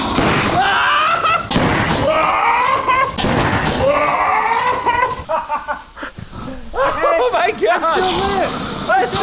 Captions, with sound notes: (loud boom) (giddy screaming) (boom) (screaming) (boom) (screaming) (laughing) Oh my god! - It's still lit!